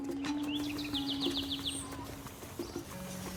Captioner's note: birds chirping